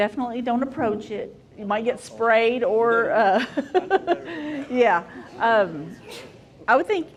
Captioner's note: laughing